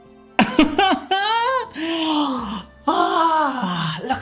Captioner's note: laughs